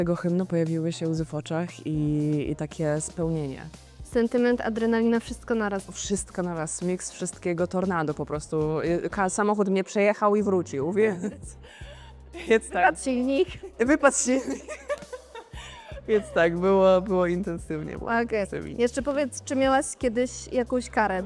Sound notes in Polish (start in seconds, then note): 14.3 śmiech